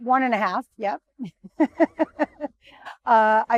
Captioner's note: laughing